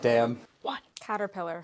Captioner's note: whispering